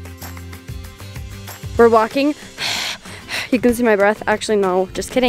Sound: exhales

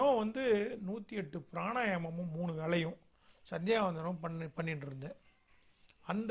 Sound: breathing exercise

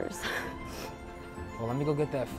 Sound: woman sniffing

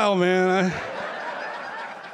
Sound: laughter

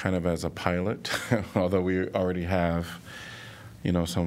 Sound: laughter

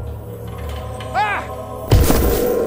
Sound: yells

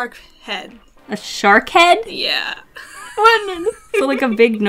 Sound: unintelligable noise of fear

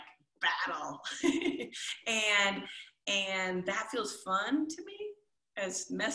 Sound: chuckles

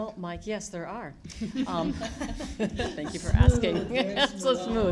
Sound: laughter

